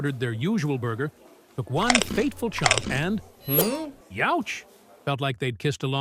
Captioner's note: ding